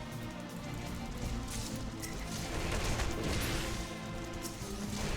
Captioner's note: gunfire